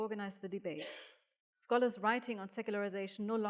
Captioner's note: audience coughing